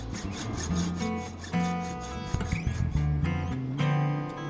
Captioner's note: hacksawing